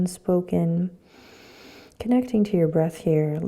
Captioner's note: inhaling